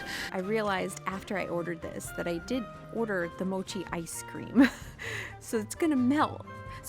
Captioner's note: laughs